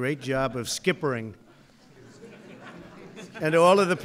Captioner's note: laughter